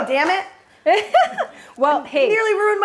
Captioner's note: Brandi chuckles